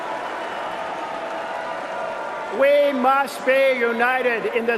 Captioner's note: cheering and applause